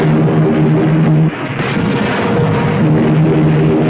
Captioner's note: plane engines roaring; weapons firing; plane engines roaring